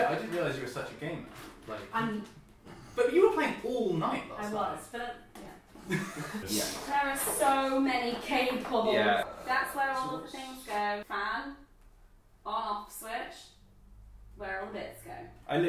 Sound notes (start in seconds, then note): 5.8 laughter